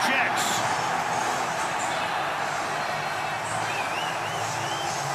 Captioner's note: cheering